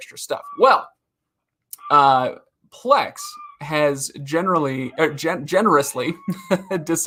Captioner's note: laughing